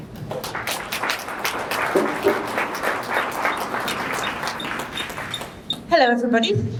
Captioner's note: applause